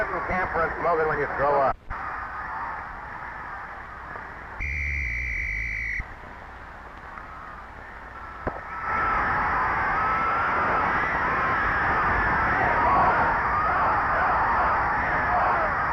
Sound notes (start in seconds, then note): 4.6 referee whistling; 7.8 crowd cheering; 9.0 gun firing; 12.9 crowd chanting